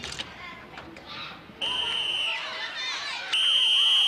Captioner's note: whistle blows